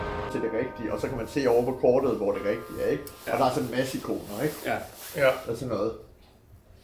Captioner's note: speaking in danish